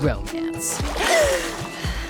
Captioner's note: gasping